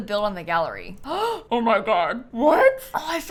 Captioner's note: gasps